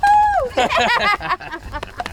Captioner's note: laughing